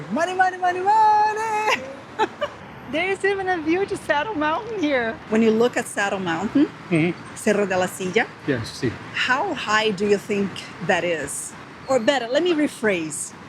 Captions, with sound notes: Money, money, money, money! There's even a view to Saddle Mountain here. When you look at Saddle Mountain... - Mm-hmm. - Cerro de la Silla. - Yes [English and Spanish] - How high do you think that is? Or better, let me rephrase.